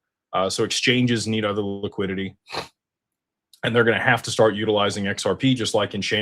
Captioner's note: snorts